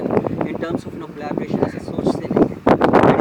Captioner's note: Hindi